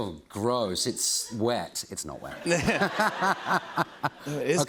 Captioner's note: laughter